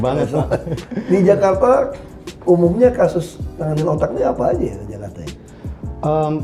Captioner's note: laughing